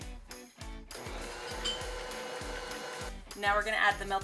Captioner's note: mixer whirring